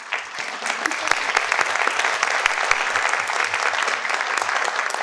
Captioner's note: participants clap